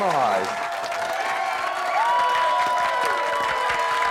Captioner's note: crowd cheering